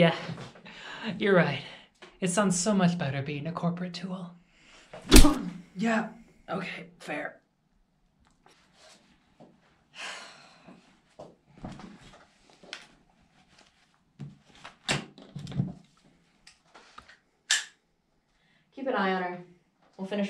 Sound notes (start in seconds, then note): 3.3 punch; 8.2 angry sigh; 15.6 gun cocks